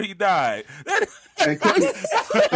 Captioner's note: laughing